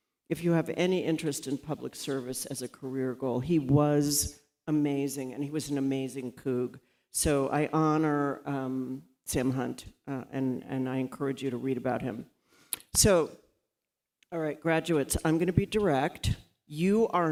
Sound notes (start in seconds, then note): none